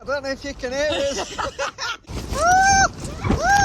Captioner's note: laughing; screaming